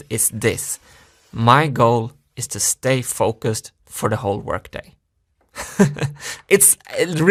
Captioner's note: laughs